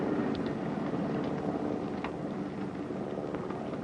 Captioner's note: plane rumbles